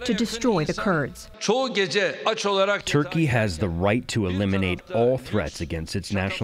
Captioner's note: through translator